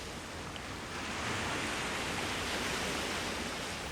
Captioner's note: waves crashing